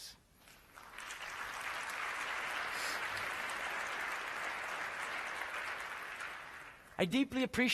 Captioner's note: applause